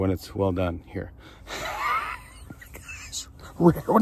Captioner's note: laughs